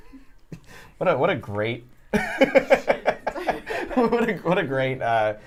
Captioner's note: laughter